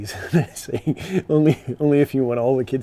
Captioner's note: chuckles